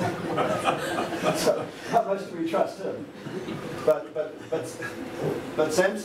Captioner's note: laughter